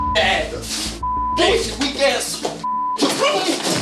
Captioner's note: beep